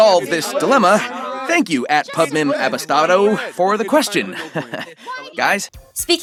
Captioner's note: laughs nervously